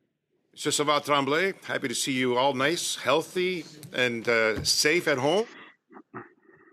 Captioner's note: speaking French